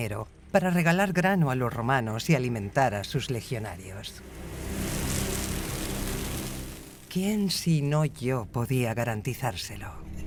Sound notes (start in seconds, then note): 4.2 grains clattering